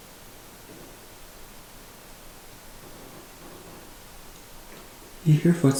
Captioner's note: faintly sounding footsteps